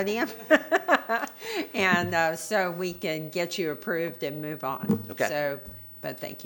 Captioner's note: laughter